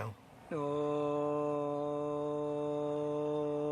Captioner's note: humming